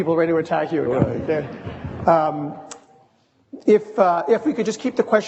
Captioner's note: audience laughing